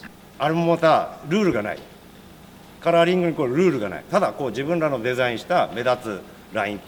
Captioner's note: speaking Japanese